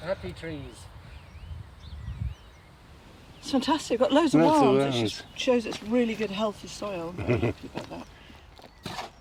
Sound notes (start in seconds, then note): 1.8 birds chirping; 7.1 chuckling